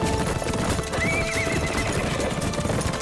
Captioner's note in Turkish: At kişneme sesi